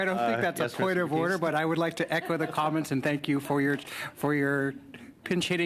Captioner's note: laughter